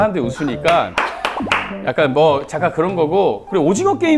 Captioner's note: laughing from just imagining it